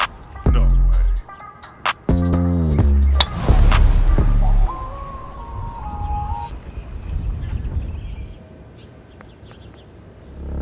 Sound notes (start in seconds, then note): 3.1 golf ball whizzes through the air